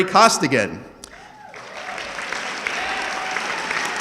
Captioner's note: audience clapping